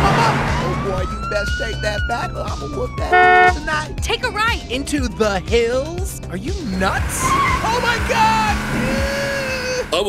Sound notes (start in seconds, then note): 3.0 car honks; 6.5 tires screech; 7.2 screams